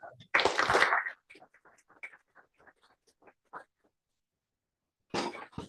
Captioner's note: applause